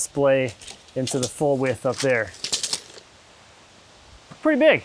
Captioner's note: tape measure rattling